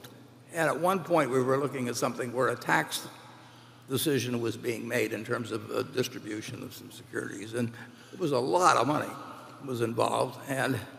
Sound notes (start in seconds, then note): none